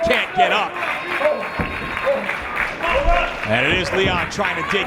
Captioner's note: applause